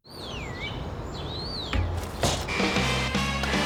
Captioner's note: bird chirping; mid-tempo blues music plays